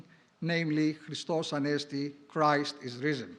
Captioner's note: foreign language